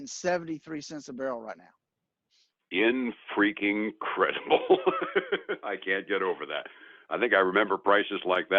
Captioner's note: laughs